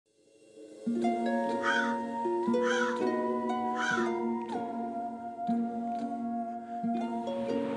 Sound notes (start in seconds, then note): 0.3 eerie music; 0.6 crow cawing